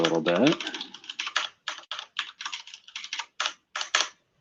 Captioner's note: typing